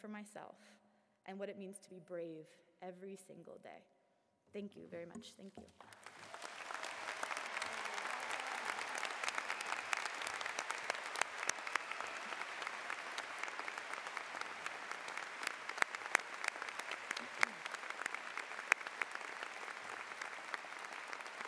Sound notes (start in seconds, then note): 5.8 applause